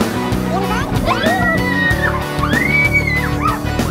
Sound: upbeat music; squeals

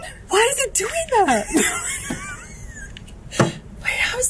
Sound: laughs

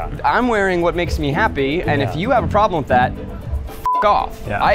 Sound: beep

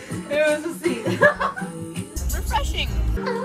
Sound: laughter

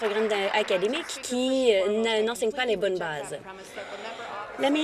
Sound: applause

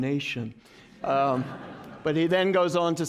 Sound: laughter

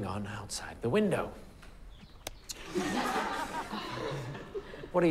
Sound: laughter

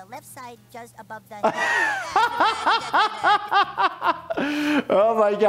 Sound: laughing

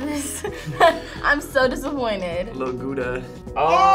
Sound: laughs

